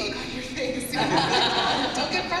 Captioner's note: laughter